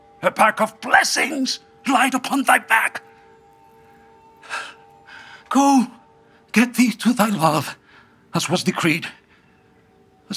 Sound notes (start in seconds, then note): none